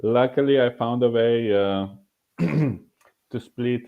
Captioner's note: clearing throat